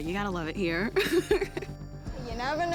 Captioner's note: laughs